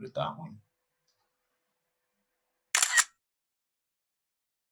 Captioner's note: sound effect of camera